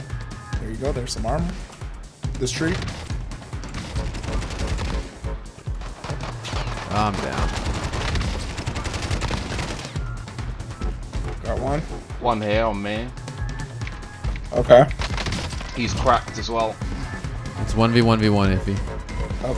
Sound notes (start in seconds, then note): 4.0 gunshots